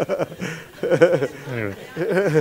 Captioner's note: laughter